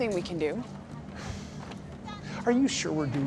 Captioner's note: sighs